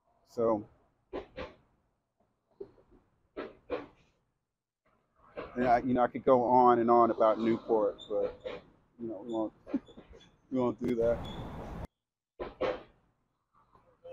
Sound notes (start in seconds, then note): 9.6 chuckles